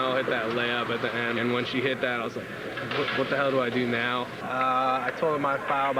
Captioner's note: crowd cheering